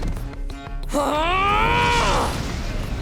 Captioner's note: grunting